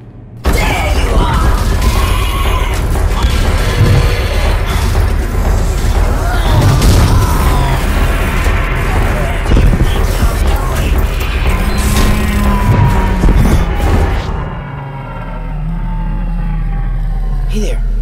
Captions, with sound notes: THERE YOU ARE! *Growls* *Growls in rage* Where do you think your going!?